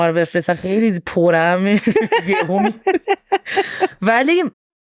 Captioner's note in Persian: خنده